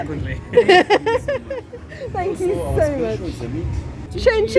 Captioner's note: laughter